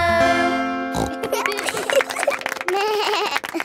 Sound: snorts; laughing; bleats and laughs

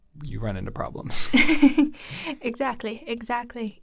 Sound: chuckles

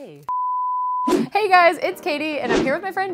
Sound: screen swooshing

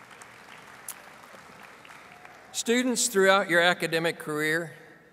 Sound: audience applauding

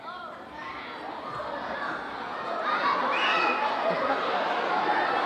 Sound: audience exclaiming

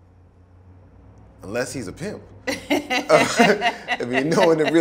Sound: both laugh

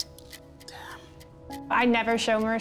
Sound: whispers

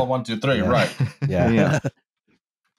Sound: laughs

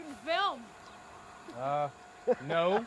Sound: laughter

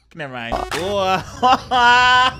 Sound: upbeat music; youTuber laughing; youTuber groans

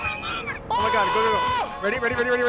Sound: screams

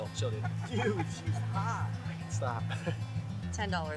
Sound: laughs

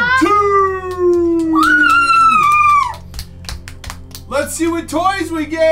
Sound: clapping; cheering

